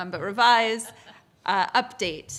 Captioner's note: laughter